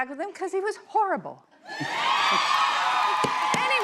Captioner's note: cheers and applause